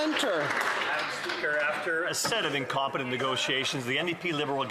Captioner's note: some Applause